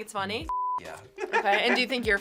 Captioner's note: laughs